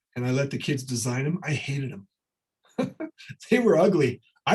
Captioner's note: chuckles